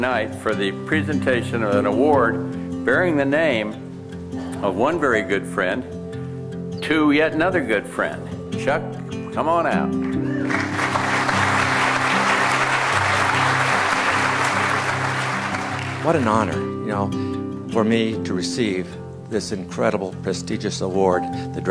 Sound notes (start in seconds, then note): 10.0 audience applauding